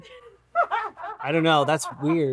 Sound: crew cackling

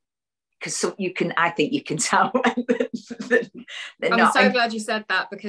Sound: laughs

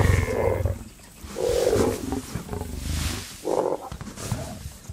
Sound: lioness roaring and growling

